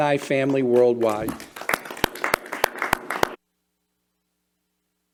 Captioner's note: clapping